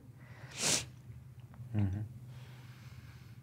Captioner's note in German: Schniefen